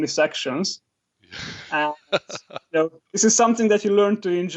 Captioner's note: laughs